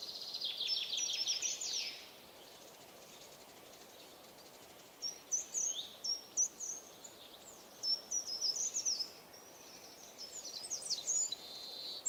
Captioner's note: birdsong